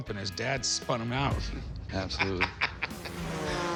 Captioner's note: laughs; engines roaring